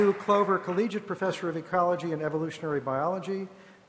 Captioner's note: applause